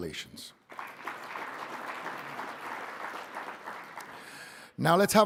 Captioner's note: audience applauding